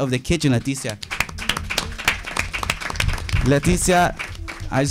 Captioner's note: audience applauding